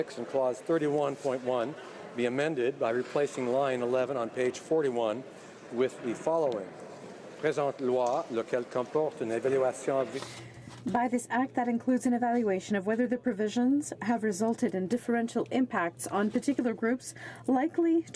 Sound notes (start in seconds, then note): 10.5 speaking French